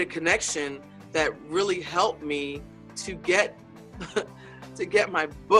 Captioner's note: laughs